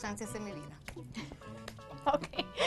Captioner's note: laugh